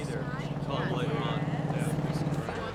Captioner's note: people chattering